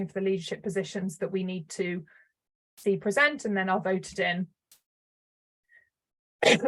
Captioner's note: coughs